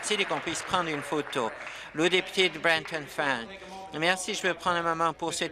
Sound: applause

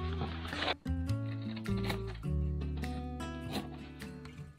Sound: the cutting continues

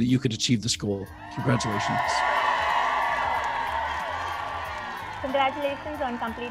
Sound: crowd cheering

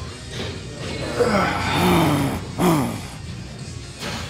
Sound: exhales; growling

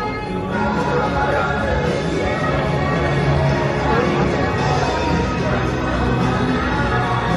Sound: cheerful music; crowd chattering

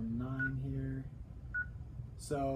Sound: beeping

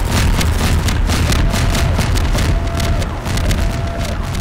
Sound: alarm blaring

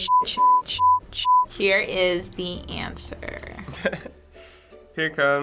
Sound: chuckles

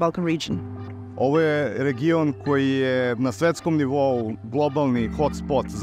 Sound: speaks Serbian

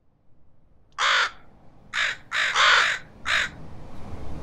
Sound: birds cawing

